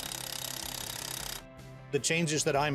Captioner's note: clanking of ratchet